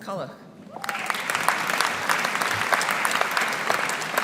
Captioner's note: audience applauding